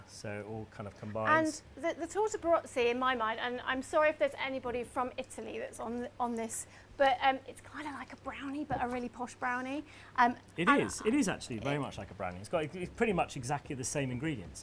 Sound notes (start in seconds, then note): 7.8 whispers